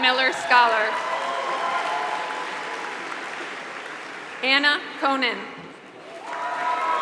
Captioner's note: applause